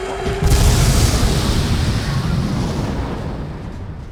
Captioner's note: ka-boom